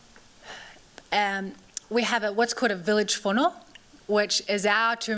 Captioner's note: non-english